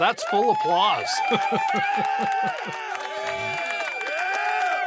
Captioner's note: laughs